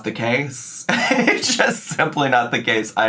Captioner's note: laughs